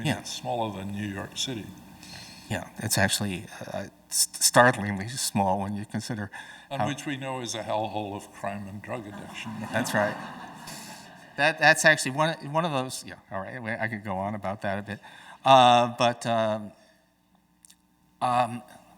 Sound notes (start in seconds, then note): 8.8 audience chuckling